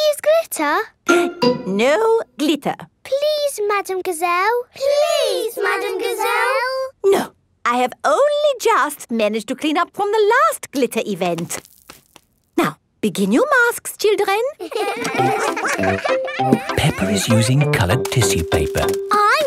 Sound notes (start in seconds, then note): 1.3 gasps; 14.6 all giggling